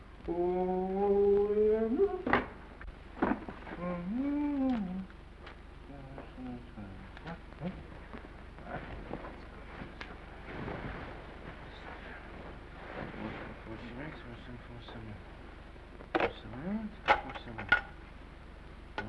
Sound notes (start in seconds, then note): 3.6 humming; 12.9 mumbles